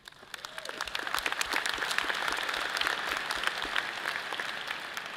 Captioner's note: audience cheers and applause